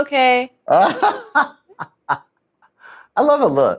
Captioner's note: laughs